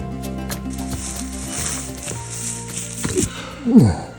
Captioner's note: upbeat music; rattling